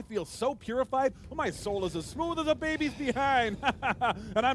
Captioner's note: chuckles